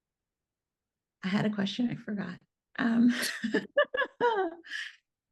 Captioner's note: chuckles